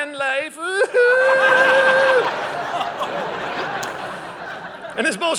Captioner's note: audience laughing